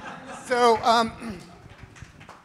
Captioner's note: audience members laugh; laughs; audience members applaud